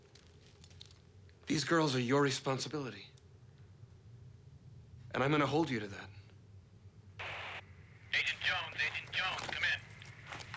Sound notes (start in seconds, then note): 7.2 static